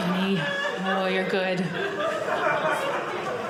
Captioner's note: audience laughing